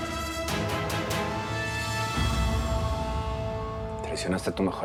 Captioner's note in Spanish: Ladridos